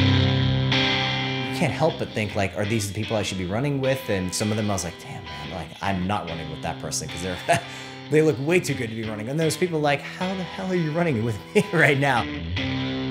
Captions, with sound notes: Can't help, but think like are these the people I should be running with and some of them I'm like damn, man I'm not running with that person cause (laughs) they look way too good to be running and those people like how the hell are you running it with right now?